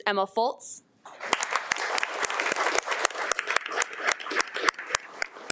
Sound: audience applauding

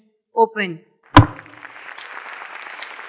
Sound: audience clapping; gavel banging

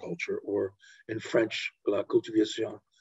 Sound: speaks in foreign language

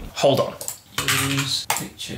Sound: keyboard typing

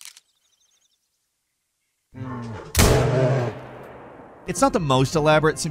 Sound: birds chirping; gunshots cracking

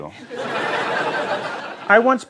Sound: laughter

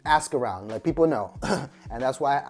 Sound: clears throat

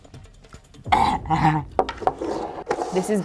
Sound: gags

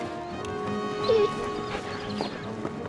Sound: whining

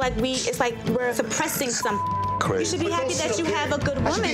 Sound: beep

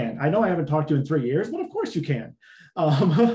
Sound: laughs

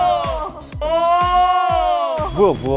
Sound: exclaiming

